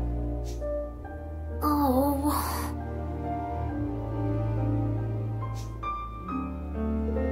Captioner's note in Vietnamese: thở dài